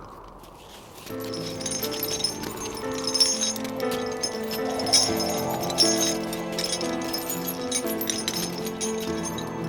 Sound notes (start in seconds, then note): 1.9 chains clink; 5.5 sad music